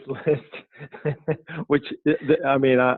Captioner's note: laughing